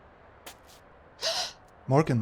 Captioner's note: Morgan gasps